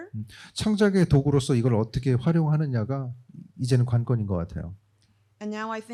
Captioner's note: speaking korean